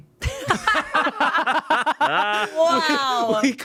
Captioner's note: everyone laughs